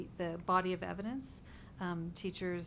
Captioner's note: none